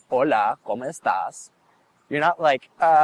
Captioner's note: speaking in a foreign language